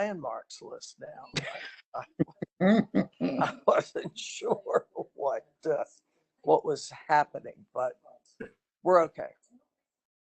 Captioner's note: laughter